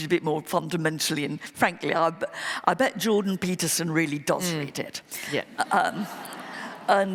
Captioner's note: laughter